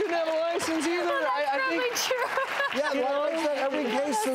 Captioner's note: applauding